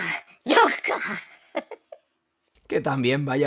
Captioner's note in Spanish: riendo